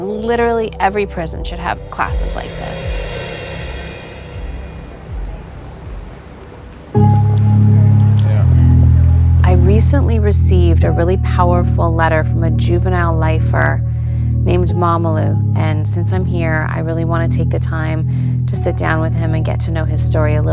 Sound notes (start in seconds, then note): 5.0 footsteps; 7.0 slow music